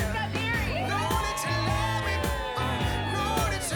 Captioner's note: cheering